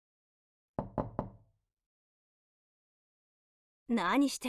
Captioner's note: knock, knock, knock--!